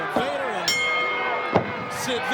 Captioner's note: bell rings